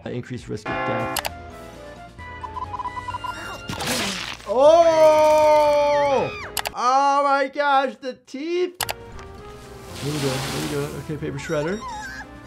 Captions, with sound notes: an increased risk of death. (bell chiming) (mouse clicking) (robot beeping) (teeth smashing) Ooh! (character screaming) Oh my gosh, the teeth! (mouse clicking) We're doin' good, we're doin' good. Okay, paper shredder.